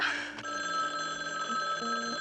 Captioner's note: phone ringing